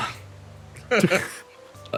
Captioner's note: laughs